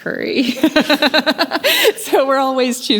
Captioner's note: laughing